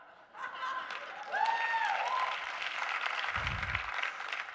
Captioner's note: audience cheering